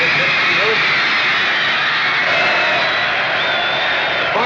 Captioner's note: cheering